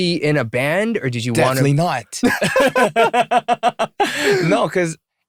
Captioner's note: laughter